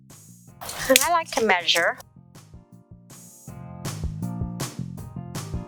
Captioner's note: tape cracking